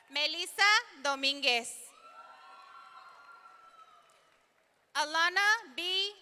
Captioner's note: audience cheering; audience cheering